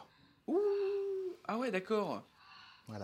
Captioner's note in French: gémissements de plaisir